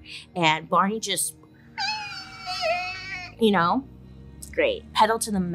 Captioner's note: squeals